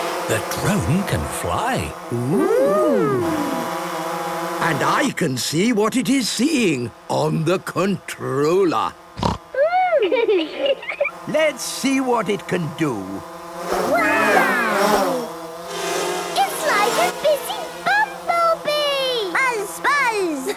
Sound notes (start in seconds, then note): 9.1 snorting; 9.6 laughter